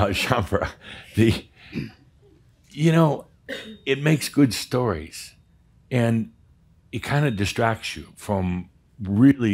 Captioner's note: chuckles